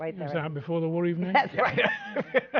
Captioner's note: laughs